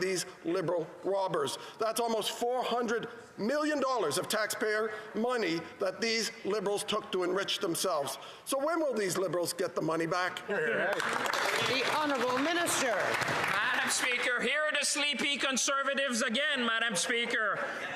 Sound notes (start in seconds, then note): 14.6 applause